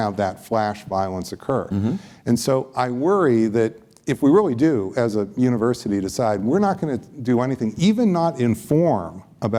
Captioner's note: none